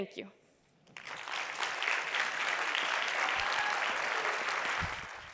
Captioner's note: applause